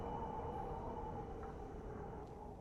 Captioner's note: none